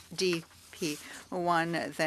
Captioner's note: speaking French